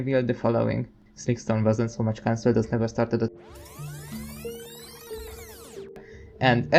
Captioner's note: interrupted by a fast-forward noise